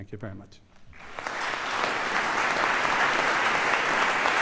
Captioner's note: applause